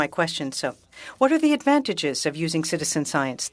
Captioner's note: speaking French